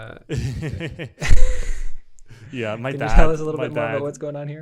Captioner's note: laughs